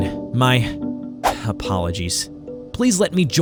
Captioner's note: sighs